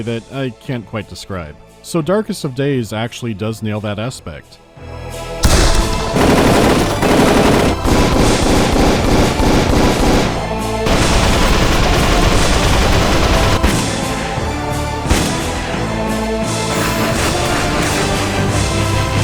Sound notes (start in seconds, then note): 5.4 brakakaka-brakaka; 5.4 pow; 7.8 burrt-burrt-burrt-burrt-burrt-burrt-burrt; 13.5 powsh